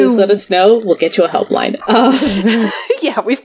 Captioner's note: laughs